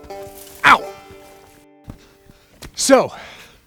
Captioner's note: breaking branches